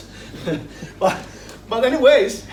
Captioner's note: laughs